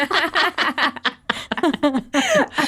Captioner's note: laughing